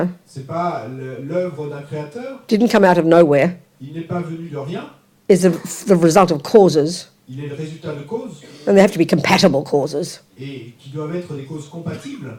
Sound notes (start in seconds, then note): 0.3 audience member speaks in French; 7.3 audience member speaks in French; 10.3 audience member speaks in French